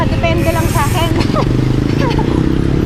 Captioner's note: laughs